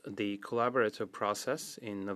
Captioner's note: speaking French